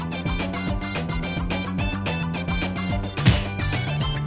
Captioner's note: slipping